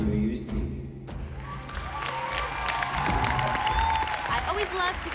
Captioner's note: cheering